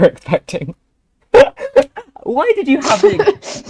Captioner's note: laughter